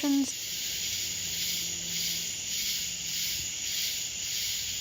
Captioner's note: crickets chirping